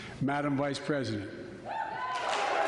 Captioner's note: applause